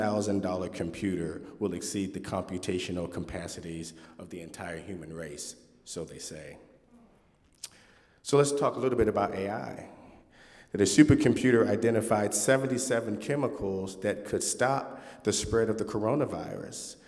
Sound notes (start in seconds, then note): none